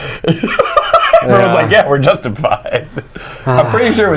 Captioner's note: laughing